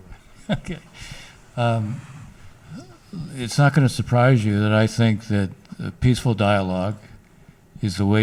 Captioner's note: laughs